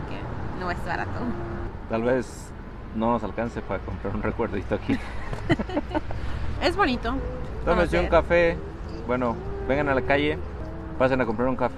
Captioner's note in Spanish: risas